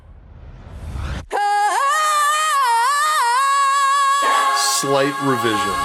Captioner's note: powerful volcalization